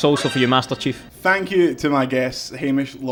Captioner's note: winning noise